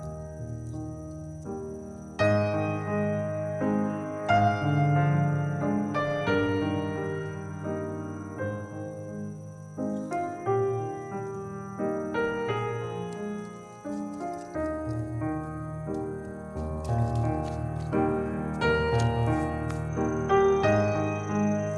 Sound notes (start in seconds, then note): 16.6 rain